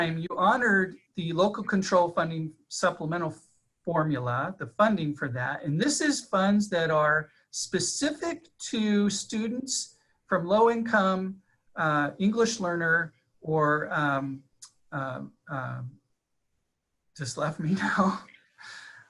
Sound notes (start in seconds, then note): 17.6 laughing